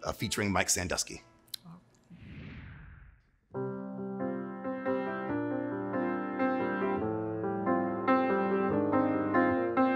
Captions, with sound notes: featuring Mike Sandusky. (air whooshing) (gentle piano music)